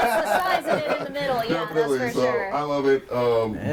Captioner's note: overlapping chatter